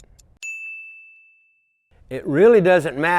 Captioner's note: bell rings